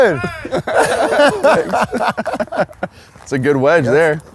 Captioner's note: laughs